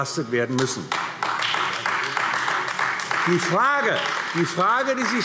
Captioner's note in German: Beifall AfD